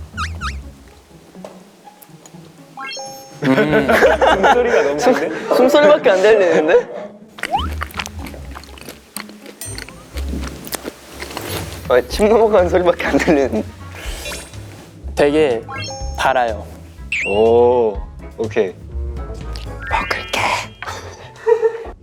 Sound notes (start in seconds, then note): 2.7 breathing ASMR; 7.3 chewing